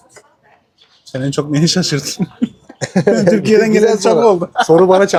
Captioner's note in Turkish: kahkaha